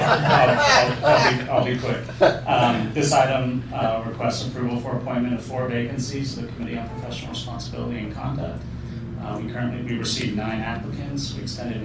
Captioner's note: laughter